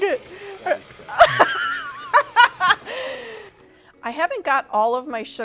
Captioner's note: laughing